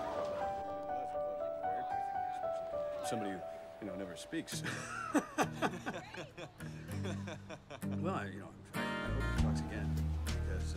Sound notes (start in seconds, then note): 4.6 laughing